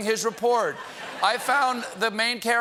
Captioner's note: laughter